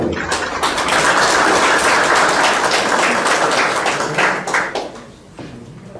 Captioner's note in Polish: oklaski